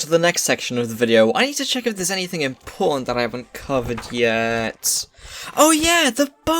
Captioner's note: flipping pages